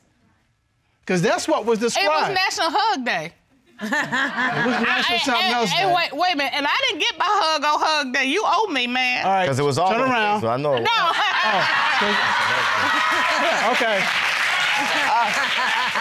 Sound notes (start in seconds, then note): 3.8 chuckles; 10.8 audience laughing